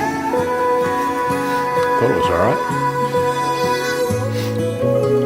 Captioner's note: speaks softly